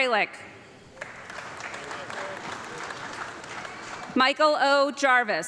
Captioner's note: audience clapping